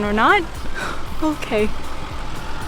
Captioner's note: laughs